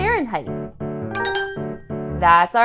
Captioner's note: chime